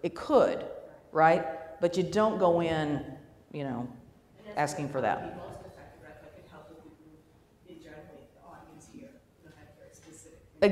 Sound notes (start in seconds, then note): 5.3 voiceover